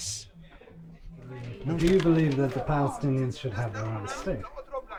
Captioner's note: voiceover